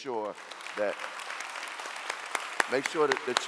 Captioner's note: clapping